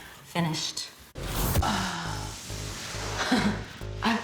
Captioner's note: sighs; chuckles